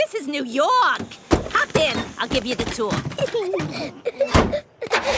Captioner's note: Peppa and George laughing